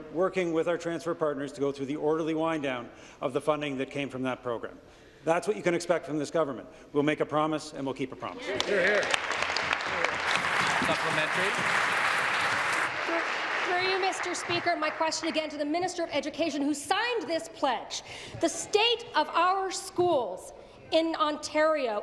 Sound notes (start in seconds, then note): 12.5 applause